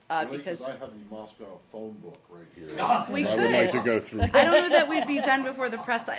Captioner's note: laughter